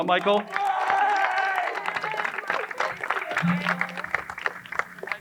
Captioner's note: crowd cheering and applauding